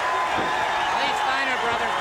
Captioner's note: crowd cheering